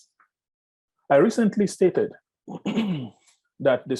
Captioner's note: clears throat